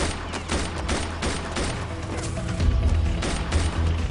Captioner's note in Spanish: Disparos